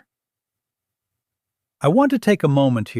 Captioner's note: pause